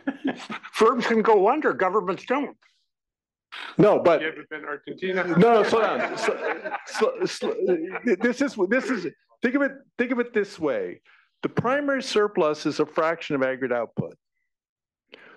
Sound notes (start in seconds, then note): 5.1 laugh